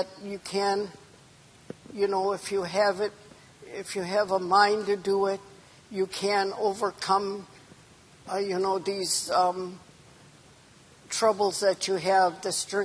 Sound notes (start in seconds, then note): none